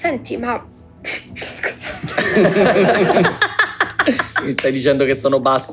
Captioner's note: laughs; laughter